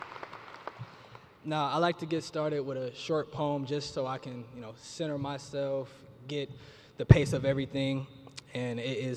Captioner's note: cheers and applause